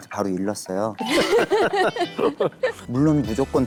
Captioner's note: laughing